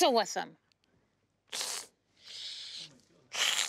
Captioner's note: make hissing sounds